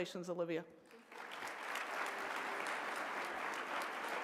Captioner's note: applause